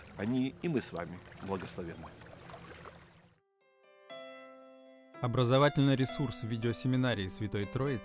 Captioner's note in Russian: шум воды